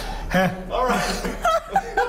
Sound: laughter

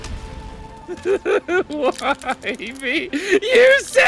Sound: laughs

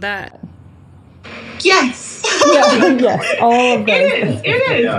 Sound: laughs

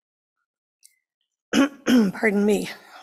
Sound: clears throat

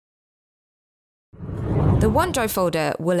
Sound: air whooshes

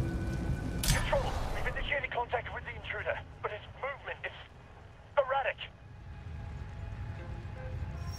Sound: radio

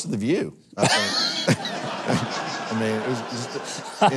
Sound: audience laughing

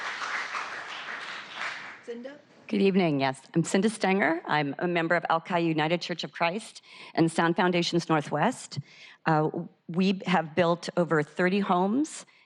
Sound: applause

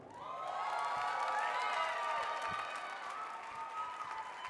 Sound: audience cheering

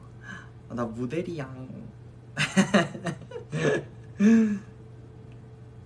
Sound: giggles

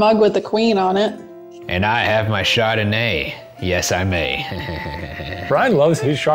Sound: giggling

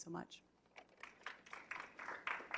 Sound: clapping

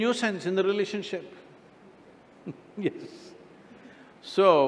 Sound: laughs

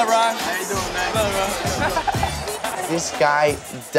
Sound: laughs

